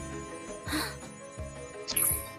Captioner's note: gasps